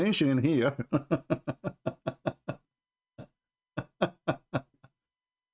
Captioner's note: Ketawa